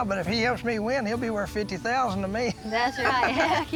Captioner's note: laughs